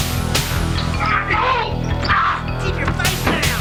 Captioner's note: screams